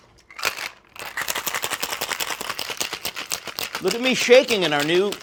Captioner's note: ice rattling